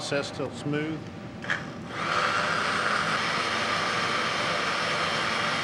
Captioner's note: blender whirs